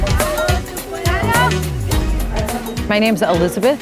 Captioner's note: indistinct chatter